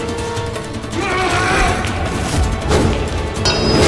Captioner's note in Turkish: Dövüş sesleri; Müzik - Gerilim